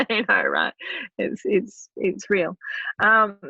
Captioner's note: laughing